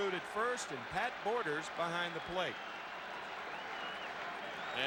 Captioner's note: applause